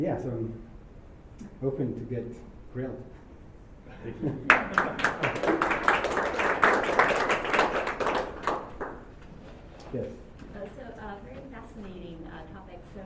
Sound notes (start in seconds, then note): 4.4 applause